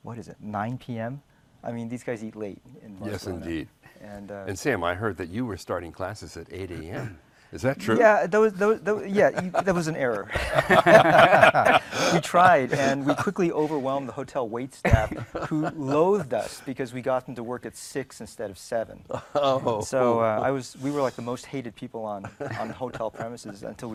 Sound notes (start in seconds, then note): 10.5 laughs